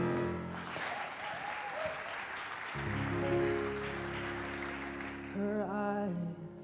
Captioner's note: audience applause